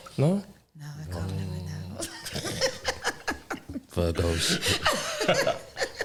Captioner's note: laugher